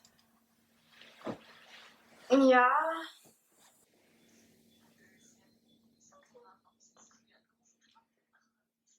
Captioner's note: long pause